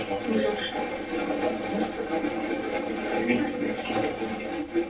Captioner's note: static playback transmitting